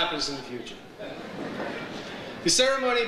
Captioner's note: audience laughs